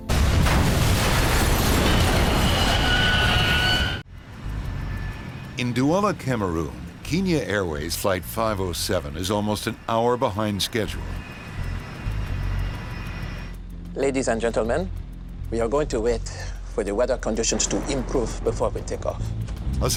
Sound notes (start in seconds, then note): 0.0 airplane crashing; 0.2 screeching; 12.0 airplane engine roaring